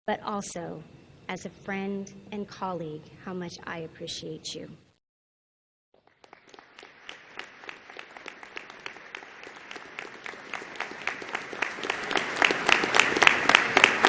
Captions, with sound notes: but also, as a friend and colleague, how much I appreciate you. (audience applauding)